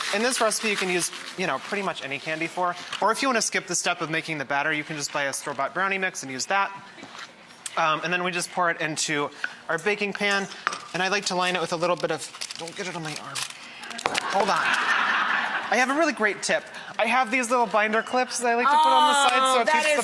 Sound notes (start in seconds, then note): 14.0 audience laughs